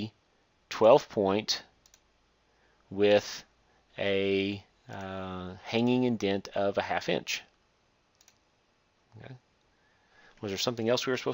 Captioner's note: click